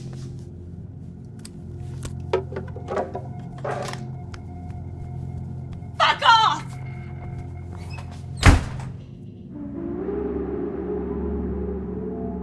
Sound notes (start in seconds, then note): 7.8 door slamming; 9.7 eerie music